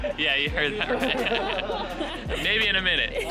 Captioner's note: people laughing